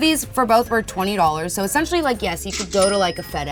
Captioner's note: cash noise